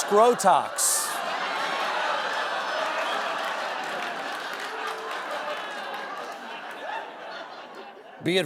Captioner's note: laughter